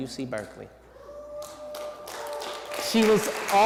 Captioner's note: cheering